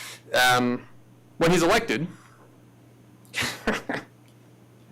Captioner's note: laughs